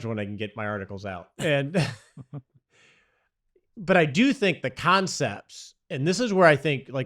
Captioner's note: laughs